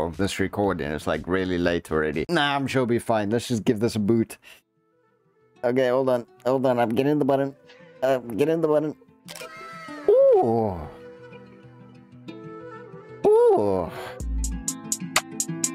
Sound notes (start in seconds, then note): 12.4 gasp